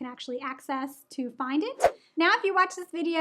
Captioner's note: air whooshes